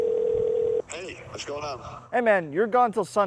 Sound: phone call

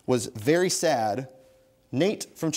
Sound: bell dings

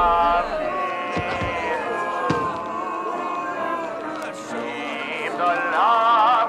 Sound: crowd booing

